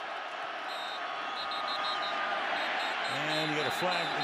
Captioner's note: whistle